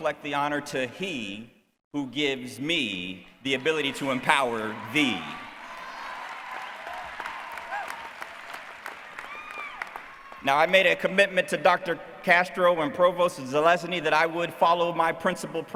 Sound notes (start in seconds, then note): 6.3 cheering